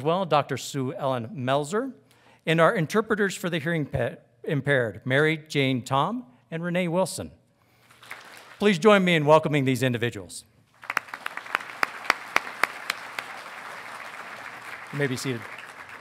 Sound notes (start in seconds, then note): 7.8 audience claps; 10.8 audience applauding